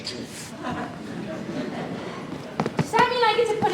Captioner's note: audience laughs